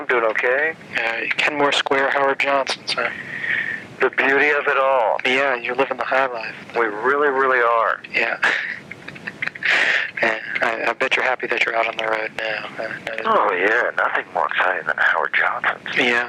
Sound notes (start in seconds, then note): 8.4 laughter